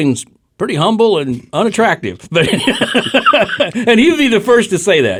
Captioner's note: laughs